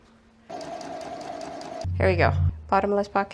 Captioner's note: sewing machine noises